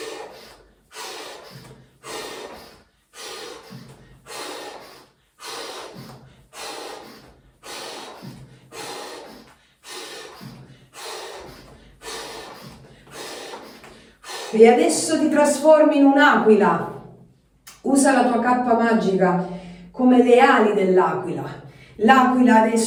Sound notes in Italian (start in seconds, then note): 10.5 sbuffare; 12.0 sospiri; 12.3 sbuffare; 13.2 suono gutturale